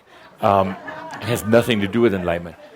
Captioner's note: a few chuckles